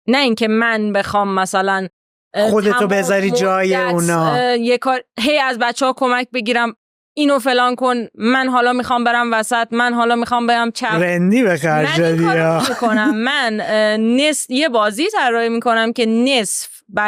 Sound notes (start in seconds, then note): 11.0 laughs